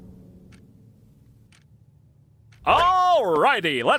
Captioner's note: clock ticking